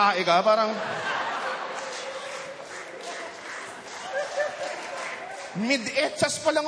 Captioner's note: laughter, applause